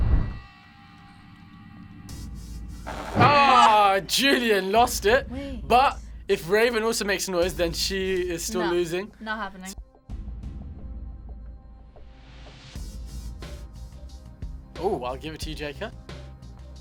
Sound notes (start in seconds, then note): 2.7 buzzer